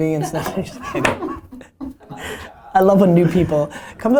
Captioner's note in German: Alle lachen